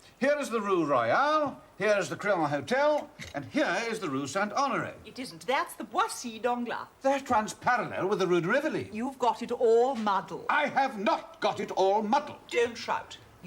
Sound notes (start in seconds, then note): 10.6 DAVID, loudly